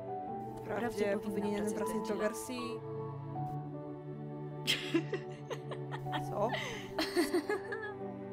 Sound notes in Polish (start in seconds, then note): 4.7 roześmiewa się; 7.9 kończy się śmiać